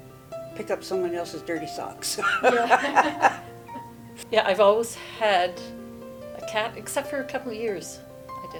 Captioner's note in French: Des rires